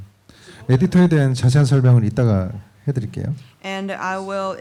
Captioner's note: speaking korean